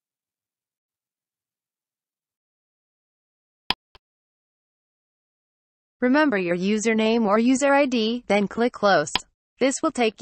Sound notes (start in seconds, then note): 4.3 click sound